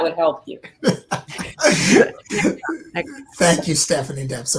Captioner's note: laughing